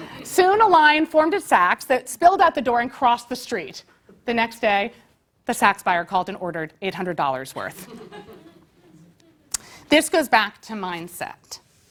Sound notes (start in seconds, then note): 0.0 laugh; 7.8 laugh